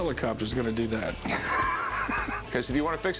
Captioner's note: laughs